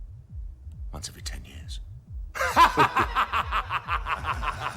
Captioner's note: laughing